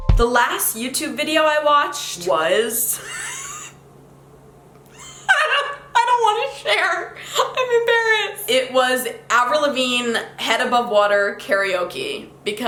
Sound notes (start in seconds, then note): 0.0 mellow music; 2.9 laughs